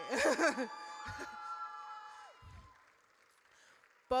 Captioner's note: audience cheers